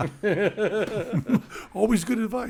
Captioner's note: group laughing